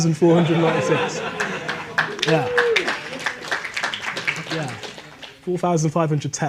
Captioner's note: audience laughing and applauding